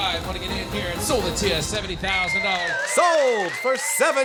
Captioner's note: cheers and applause